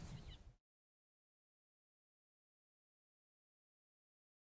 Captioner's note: silence